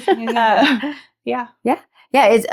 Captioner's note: laughing